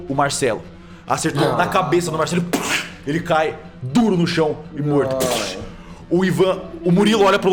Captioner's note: pow